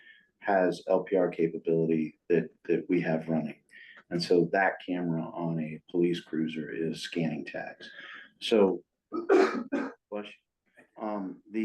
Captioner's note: sneeze